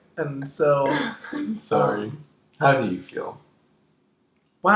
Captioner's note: laughing